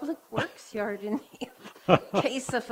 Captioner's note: laughing